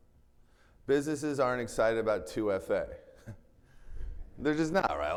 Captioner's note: chuckles